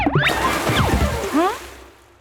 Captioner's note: water splashing